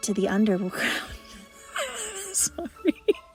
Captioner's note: laughs